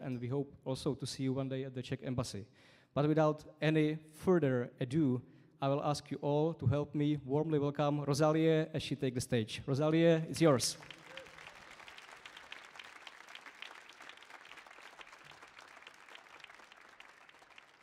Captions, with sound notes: and we hope also to see you one day at the Czech Embassy. But without any further ado, I'll ask you all to help me warmly welcome Rozálie as she takes the stage. Rozálie, it's yours. (audience applauding)